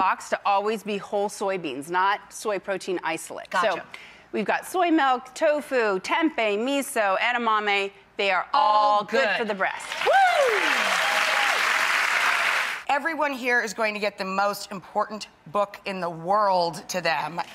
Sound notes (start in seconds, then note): 9.9 audience cheers